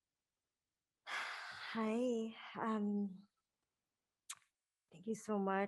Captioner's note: exhales